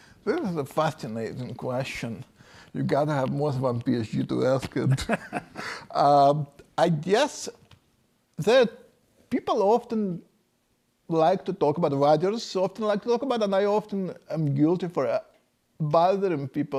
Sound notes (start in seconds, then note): 4.8 laughs